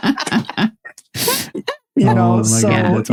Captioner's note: laughing